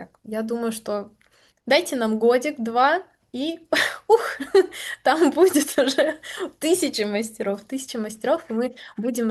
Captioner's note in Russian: смех